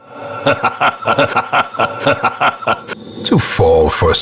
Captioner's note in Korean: 주모자의 웃음